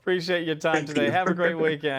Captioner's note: laughter